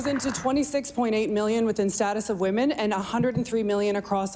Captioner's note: applause